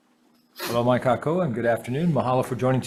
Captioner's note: speaks in foreign language